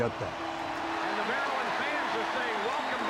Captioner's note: crowd cheering